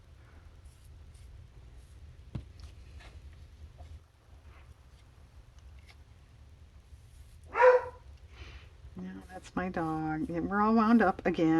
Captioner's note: dog barks